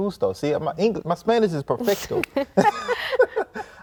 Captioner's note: in Spanish; laughs